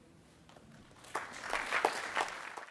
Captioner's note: attendees applauding